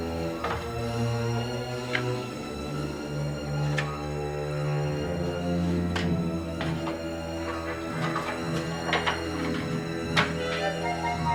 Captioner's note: letters being organized